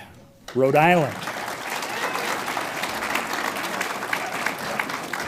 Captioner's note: audience applauds